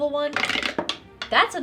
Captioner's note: dice rattling